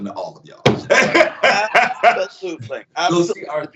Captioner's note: both laugh